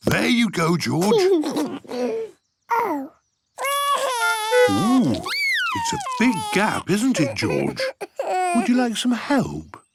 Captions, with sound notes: - There you go George. - Oh! (cries) - Oh, it's a big gap, isn't it George? Would you like some help?